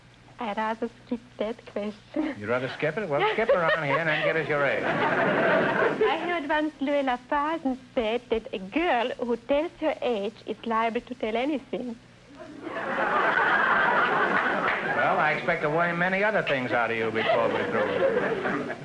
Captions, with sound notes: - I'd rather skip that question. - You'd rather skip it, well skip around here and give us your age. (audience laughter) - I heard once Louie Lafadden say, that a girl who states her age is liable to tell anything. (audience laughter) - Well, I expect to worm many other things out of you, before we're through.